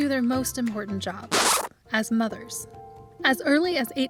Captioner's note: brakes screech